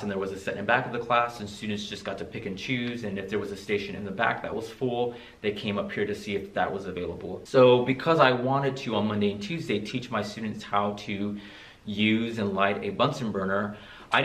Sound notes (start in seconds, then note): none